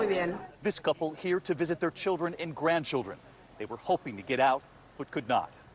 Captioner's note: speaking foreign language